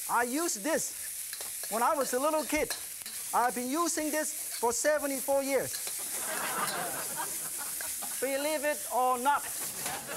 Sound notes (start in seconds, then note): 6.0 audience laughing